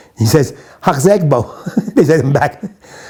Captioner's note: chuckles